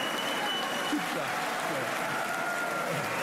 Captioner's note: applause